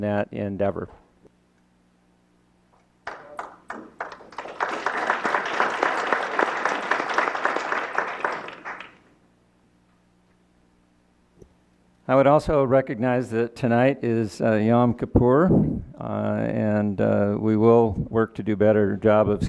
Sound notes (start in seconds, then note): 0.9 clapping